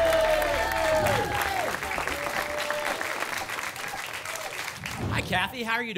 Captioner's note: applause and cheering